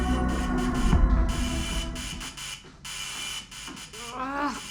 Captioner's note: doorbell buzzing; groans